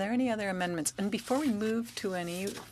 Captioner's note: speaking French